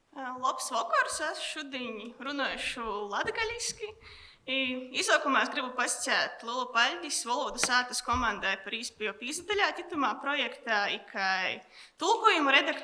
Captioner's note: speech in Latgalian